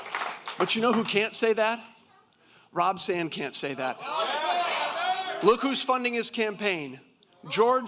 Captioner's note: applause